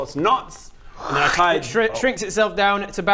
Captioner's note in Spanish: kkkrrrrsch